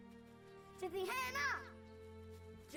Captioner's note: Spoken Cherokee